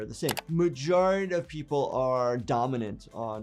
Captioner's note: keyboard keys clicking